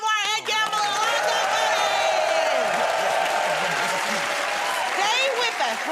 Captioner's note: cheers and applause